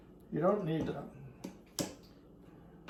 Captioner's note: bottle top clicks